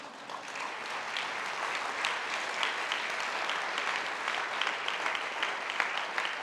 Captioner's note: audience applauding